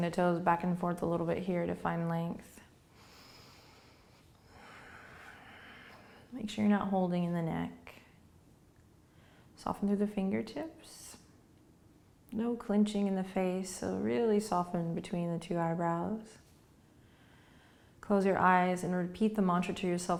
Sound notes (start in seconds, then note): 2.9 breathing